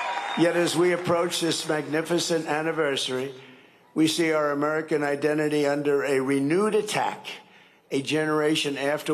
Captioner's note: cheering and applause